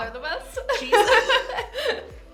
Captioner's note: both laugh